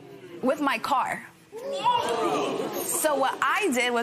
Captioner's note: spectators murmur